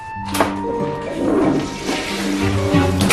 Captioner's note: toilet flushes